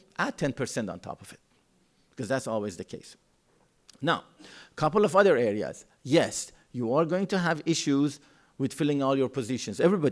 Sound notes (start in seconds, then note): none